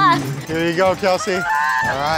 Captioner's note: cow bell ringing